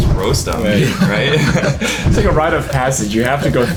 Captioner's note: everyone chuckles